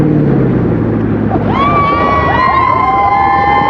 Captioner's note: cheerers